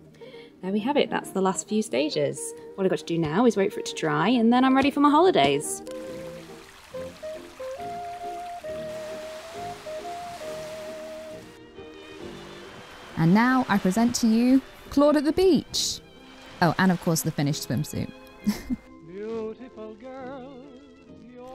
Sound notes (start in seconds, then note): 5.8 stream trickles; 10.0 gentle waves; 18.4 giggle